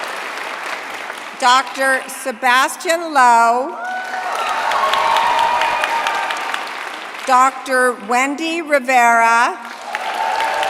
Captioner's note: cheering; applause